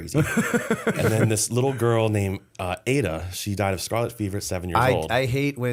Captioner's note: laughter